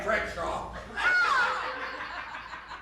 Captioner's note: yelps; laughter